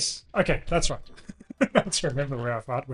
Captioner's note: laughs